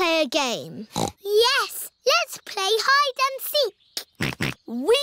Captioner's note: snorts; snorting